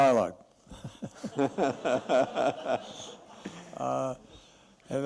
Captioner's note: laughter